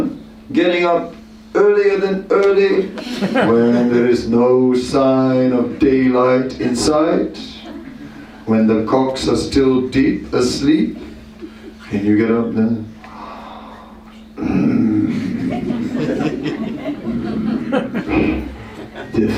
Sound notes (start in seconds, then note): 11.9 snoring sound; 13.1 laughter